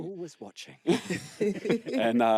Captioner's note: laughter